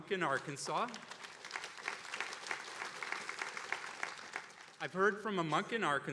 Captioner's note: attendees applauding